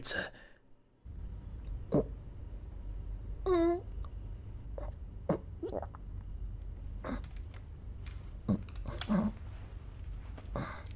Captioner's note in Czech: Hrdelní a dávivé zvuky